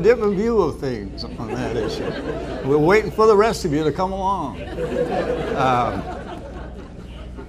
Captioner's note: laughter